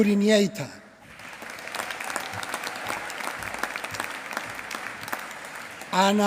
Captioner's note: applause